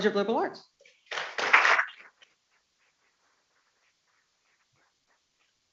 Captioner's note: people clapping